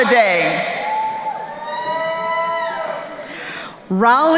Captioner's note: crowd cheering